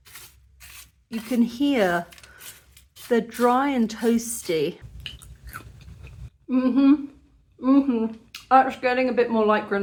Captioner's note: crunch